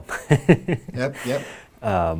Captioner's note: laughing